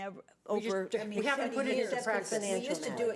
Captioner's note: members chattering